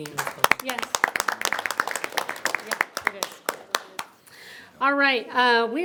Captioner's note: audience applauding